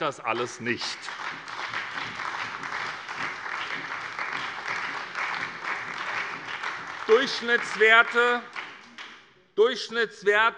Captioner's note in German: Lebhafter Beifall bei der SPD - Beifall bei der LINKEN